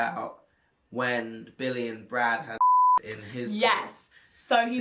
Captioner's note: beep